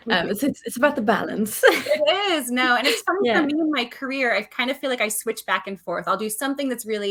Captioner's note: laughs